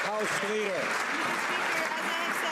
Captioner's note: some Applause